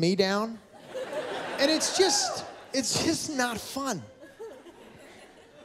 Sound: laughter

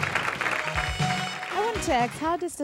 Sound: audience applause; theme music

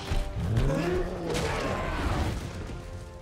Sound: screams

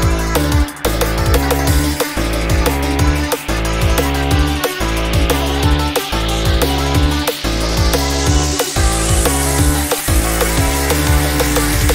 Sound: long sweepy riser begins building up

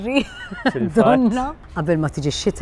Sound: laughs

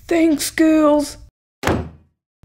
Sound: slam!

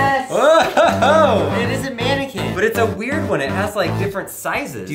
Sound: laughs

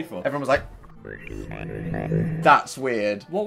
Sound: weird computer warbling

